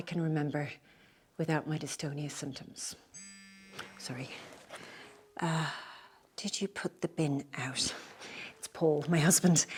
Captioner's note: phone vibrating